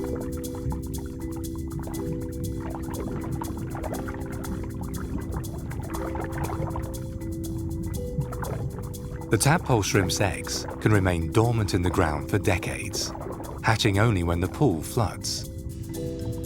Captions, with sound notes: (gentle music) (water sloshes) The tadpole shrimp's eggs can remain dormant in the ground for decades, hatching only when the pool floods.